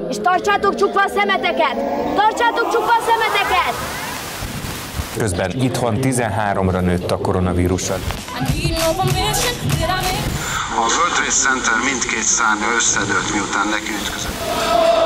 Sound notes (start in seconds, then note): 4.6 sounds of a news broadcast; 10.9 news broadcast